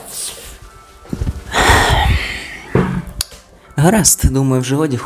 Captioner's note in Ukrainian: зітхає